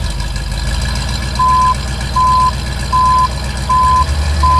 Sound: beeping

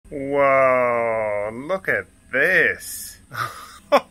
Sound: laughing

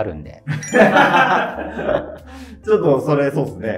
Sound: laughing

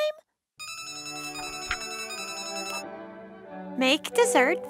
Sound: ringtone

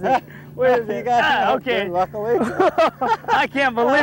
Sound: laughter

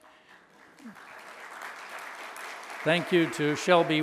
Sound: audience applauding

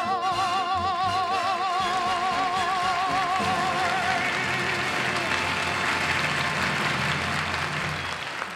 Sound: audience applauds

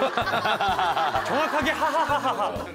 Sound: Jong Ok's 2D laughter

